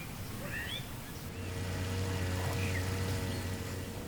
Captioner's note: motor whirring